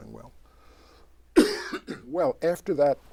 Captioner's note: coughs